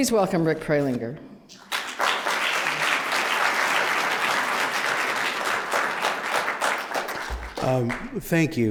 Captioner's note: applause